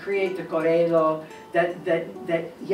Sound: speaking Italian

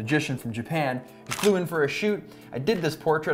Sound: camera shutter clicks

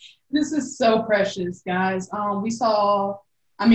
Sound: none

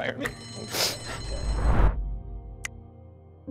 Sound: bell rings

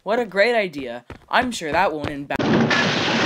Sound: footsteps; footsteps get faster; loud crash sound

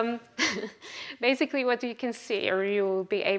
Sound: laughs

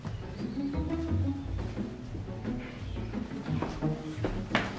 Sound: steps approaching

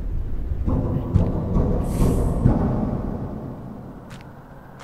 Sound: thumping sounds coming from the slide

